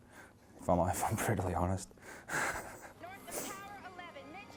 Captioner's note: laughs